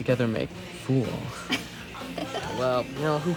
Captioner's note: laughs